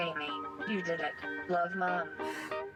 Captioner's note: computerized Female Voice